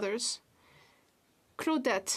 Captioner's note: speaking French